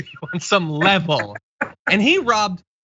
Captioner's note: laugh